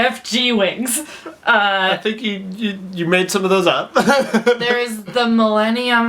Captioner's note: laughs; laughs